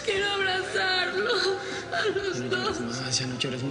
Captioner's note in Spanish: Sollozos